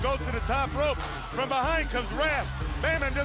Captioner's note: crowd chatter